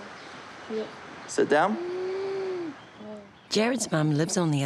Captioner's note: breathes raspily